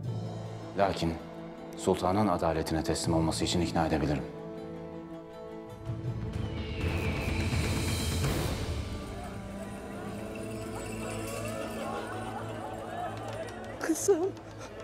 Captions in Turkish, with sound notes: Lakin sultanın adaletine teslim olması için ikna edebilirim. (Kartal ötme sesi) (Bağrışma sesleri) Kızım.